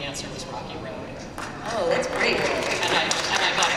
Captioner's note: applause